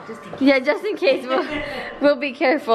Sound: mom laughs

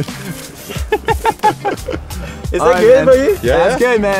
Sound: laughing

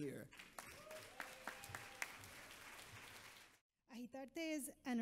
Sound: audience applauds

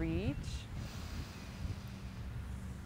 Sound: inhales deeply

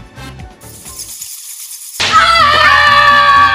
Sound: bats flying; assistant screaming

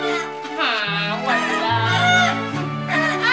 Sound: whines

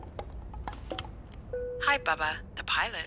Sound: aeroplane intercom beeps

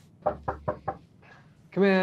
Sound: knocking

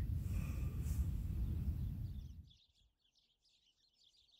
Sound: birds chirping

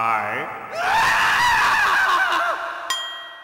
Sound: Krillin screaming

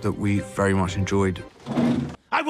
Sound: chair scraping

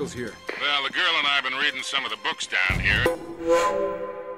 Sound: radio

